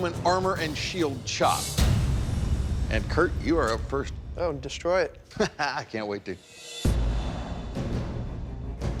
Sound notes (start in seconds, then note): 5.3 laughs